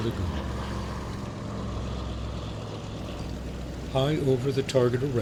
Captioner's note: aircraft flying overhead